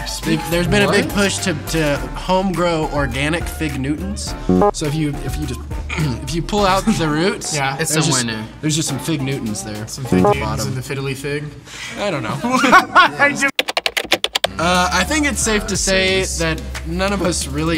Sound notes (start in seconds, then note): 4.5 buzzer buzzing; 10.8 buzzer buzzing; 12.7 laughs; 13.6 keys typing